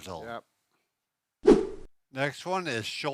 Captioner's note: whoosing noise